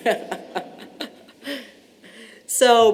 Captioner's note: laughter